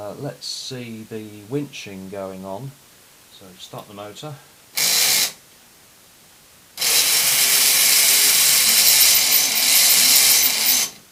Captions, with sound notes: Let's see the winching going on, so start the motor. [Motor starts loudly with difficulty]